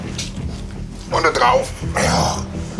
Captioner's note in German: Stöhnen